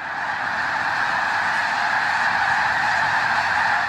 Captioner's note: birds squawking